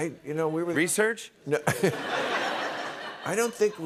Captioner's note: laughter